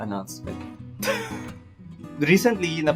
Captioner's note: chuckles